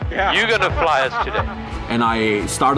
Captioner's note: nervous laughter